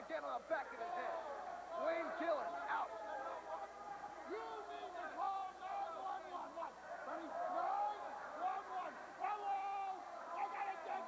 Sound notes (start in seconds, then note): 6.9 crowd chatter